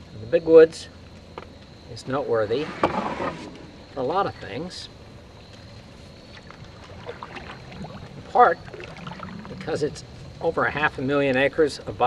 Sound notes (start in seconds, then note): 6.8 water rippling